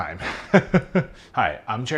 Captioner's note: laughing